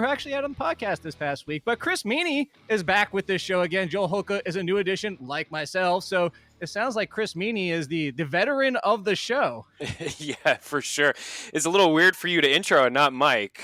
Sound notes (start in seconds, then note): 9.8 laughs